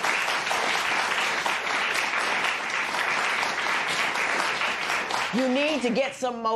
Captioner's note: applause